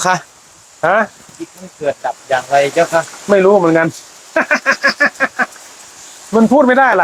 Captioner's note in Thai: เสียงหัวเราะ